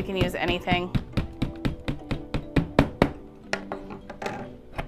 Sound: stick thudding; bright upbeat music

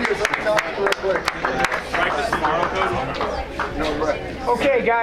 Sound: crowd applauds

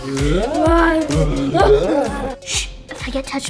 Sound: upbeat music; growling

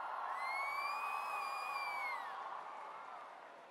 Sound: cheering; whistling

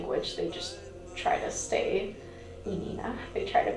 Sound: speaking in a foreign language

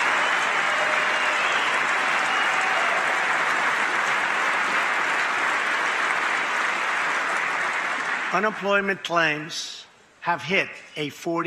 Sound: cheering and applause

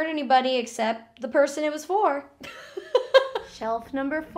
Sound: laughs

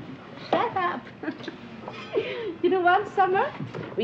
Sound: chuckles

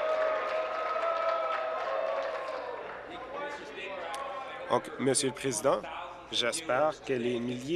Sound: applause

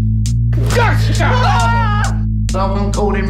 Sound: screams

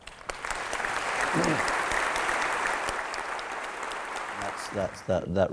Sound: sound of applause

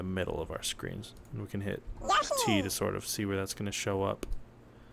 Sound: Yoshi noise

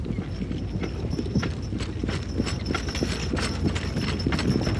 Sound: saddlebags jingling

